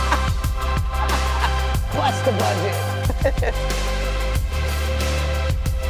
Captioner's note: laughs; chuckles